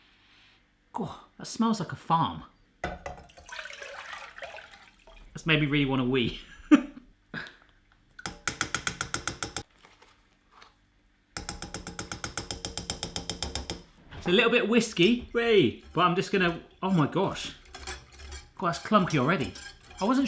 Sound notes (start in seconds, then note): 8.2 tapping